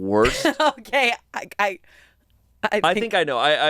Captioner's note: laughs